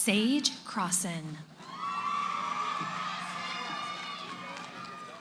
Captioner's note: cheering